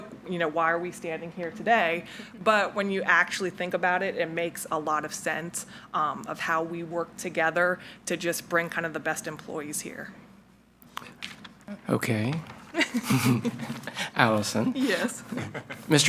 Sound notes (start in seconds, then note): 12.7 both chuckling